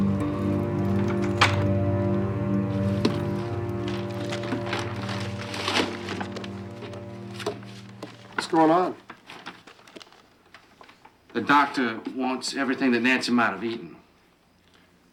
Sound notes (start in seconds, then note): 1.3 lock clicking; 2.5 dramatic music